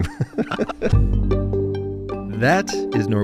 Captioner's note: both laughing